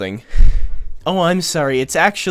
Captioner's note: sigh